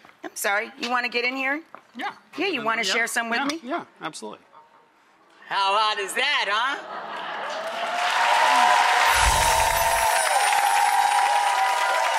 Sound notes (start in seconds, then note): 7.3 audience cheers and applauds